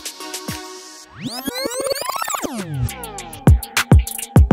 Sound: rewind audio

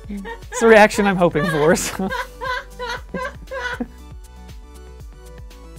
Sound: terrible laughter continues

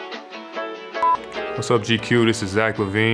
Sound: camera beeping

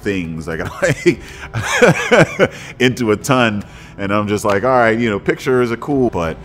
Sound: laughs

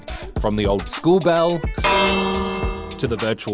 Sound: bell rings

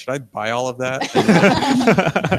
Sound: all laugh

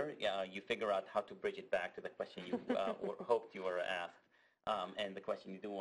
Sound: laugh

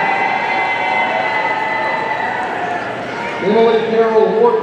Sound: audience cheering

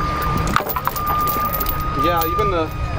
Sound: chains rattle

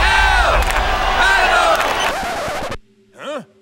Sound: cheering stops

